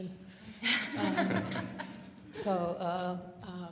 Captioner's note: laughter